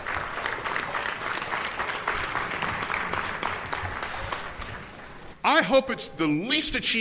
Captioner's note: applause